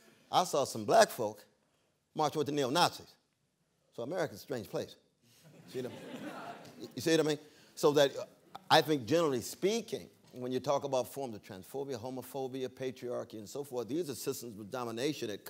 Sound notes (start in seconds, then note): 5.4 laughter